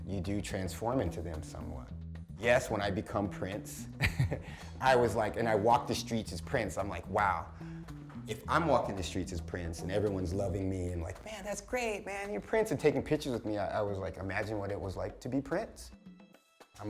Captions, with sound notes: you do transform into them somewhat. Yes, when I become Prince (laugh) and I walked the streets as Prince I'm like wow. If I'm walking the streets as Prince and everyone's loving me like, "Man that's great." "Man, you're prince," and taking pictures with me, I was imagine what it was like to be Prince.